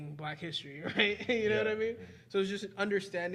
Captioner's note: chuckling